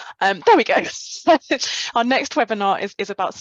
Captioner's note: chuckles